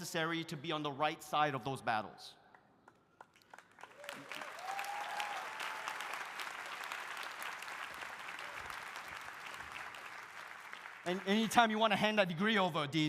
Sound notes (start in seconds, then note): 3.2 audience applauding; 3.8 audience cheering